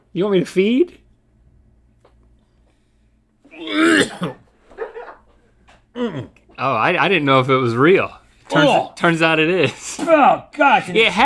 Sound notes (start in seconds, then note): 3.5 gags; 4.6 laughs